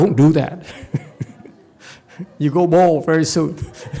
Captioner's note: laughs, audience laughs